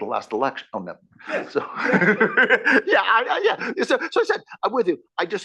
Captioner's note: laugh